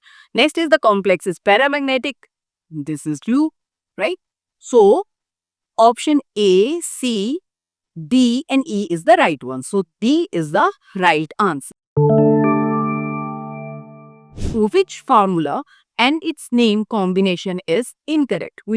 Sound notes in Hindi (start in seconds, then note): 14.3 नाक से की जाने वाली आवाज़